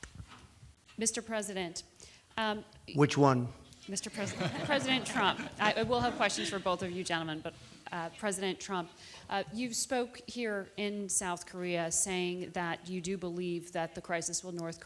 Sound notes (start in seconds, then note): 4.1 laughter